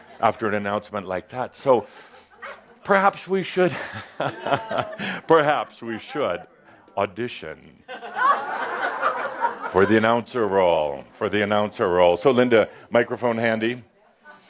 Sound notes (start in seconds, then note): 7.8 some laughter